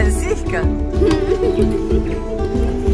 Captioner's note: laugh